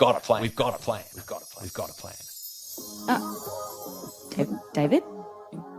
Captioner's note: echoes away